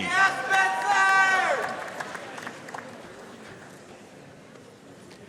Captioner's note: audience cheering and applauding